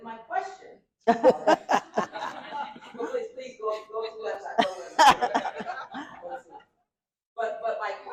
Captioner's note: laughter